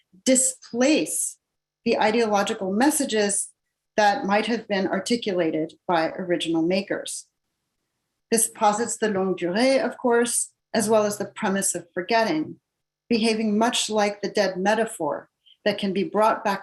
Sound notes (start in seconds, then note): 9.0 non-english speech